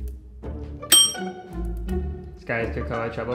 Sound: bell dinging

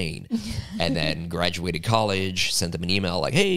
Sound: laugh

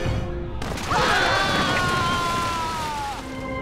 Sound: screaming

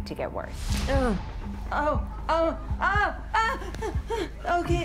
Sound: moaning and yelling

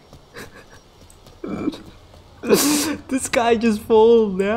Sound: laughing weirdly

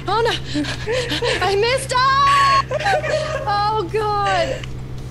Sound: laugh

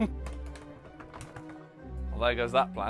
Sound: door clanging slightly

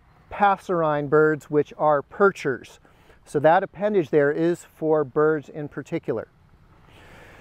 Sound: songbirds

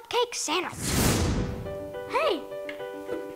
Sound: magic explosion

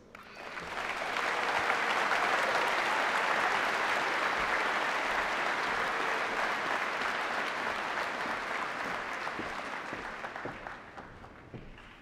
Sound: applause

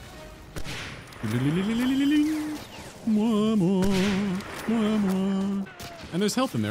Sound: immitating chimes and music

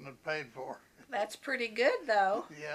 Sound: laughs

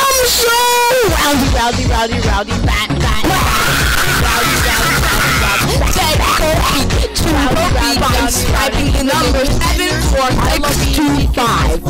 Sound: intense maniacal laugh

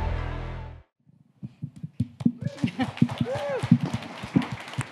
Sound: audience cheering

